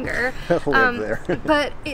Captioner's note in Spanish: risas